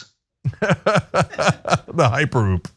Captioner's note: laugh